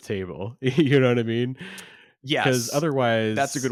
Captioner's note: laughs